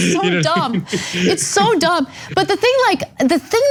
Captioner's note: laugh